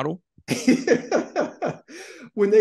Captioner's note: laughs